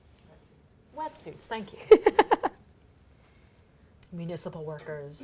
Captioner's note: laughing